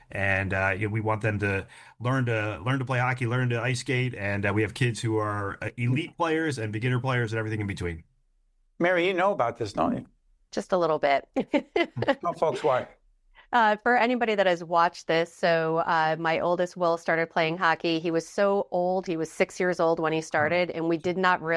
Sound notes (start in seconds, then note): 11.7 laughing